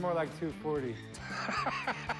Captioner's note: laughs